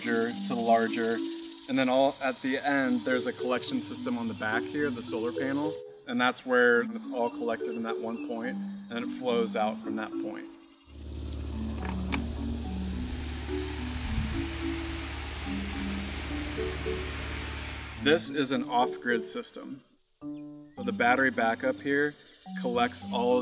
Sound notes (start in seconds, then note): 11.1 engine whirring; 11.7 plug clicks; 13.0 fan whirring